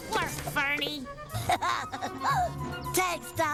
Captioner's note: giggles